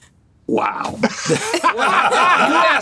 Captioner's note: laughter